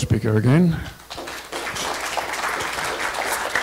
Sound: applause

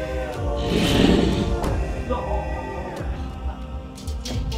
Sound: Mohuru growls, prayers continue

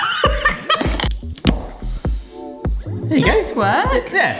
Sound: laughs; tool pops

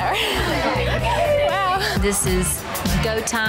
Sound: laughs

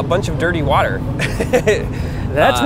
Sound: laughs

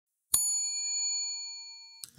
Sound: bell dings

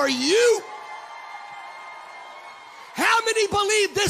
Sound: congregants cheering

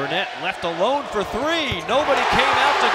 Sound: crowd cheering

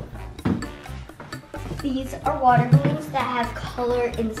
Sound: none

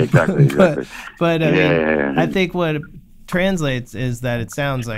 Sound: laughter

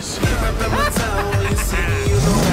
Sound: Joker laughs

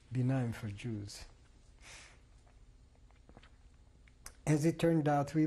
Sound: pauses for 3 seconds

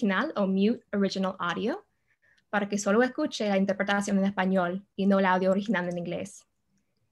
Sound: speaks Spanish

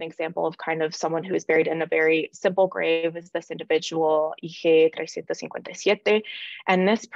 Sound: non-english

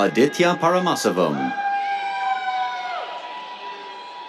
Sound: cheers

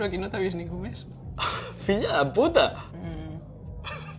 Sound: laughs

